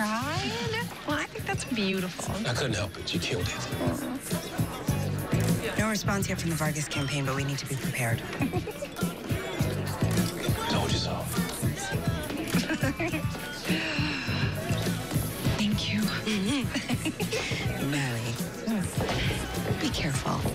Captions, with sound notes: You cried? Well, I think that's beautiful. I couldn't help it. You killed it. Mm. No response yet from the Vargas campaign, but we need to be prepared. [ Chuckles ] Told you so. [ Laughs ] [ Inhales deeply ] Thank you. [ Both chuckle ] Mellie. Hmm? Be careful.